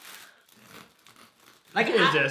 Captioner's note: knife rubbing against the bread